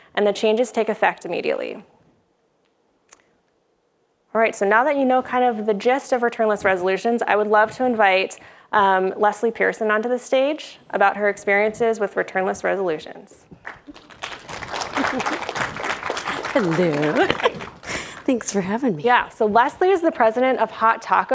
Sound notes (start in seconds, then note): 13.6 public applauds; 14.3 giggles; 17.4 laughs